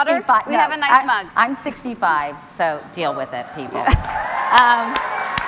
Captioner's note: cheers and Applause